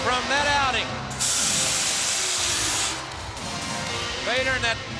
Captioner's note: air hissing